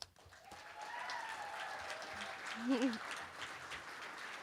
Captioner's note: cheering